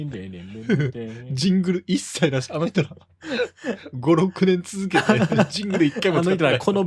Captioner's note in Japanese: 笑い